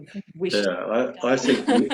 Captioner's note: laughs